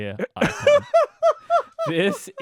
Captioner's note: laughing